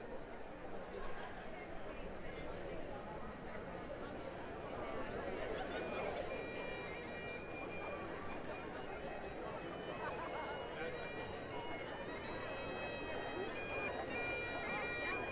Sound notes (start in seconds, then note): 2.9 people chattering indistinctly; 5.5 processional bagpipes music